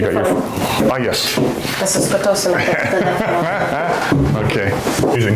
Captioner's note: laughter